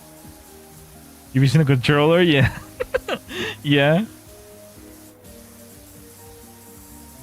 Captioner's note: laughter